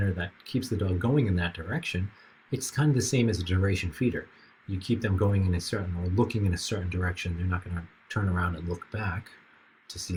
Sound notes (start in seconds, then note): none